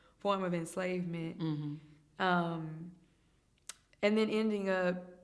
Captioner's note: hums in agreement